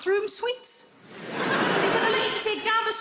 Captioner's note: crowd laughing